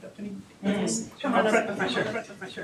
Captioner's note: chattering